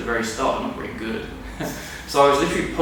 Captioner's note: laughs